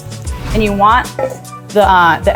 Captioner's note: instructions whooshing